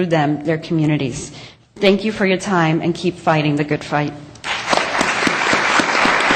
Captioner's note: applause